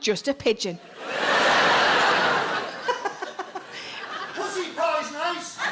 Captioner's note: audience laughs